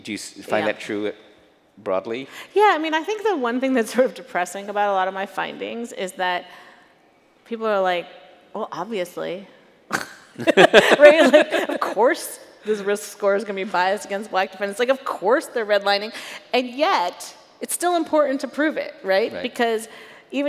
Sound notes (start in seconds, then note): 9.9 chuckles